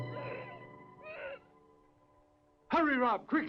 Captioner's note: dramatic orchestral music continues; Lotti grunting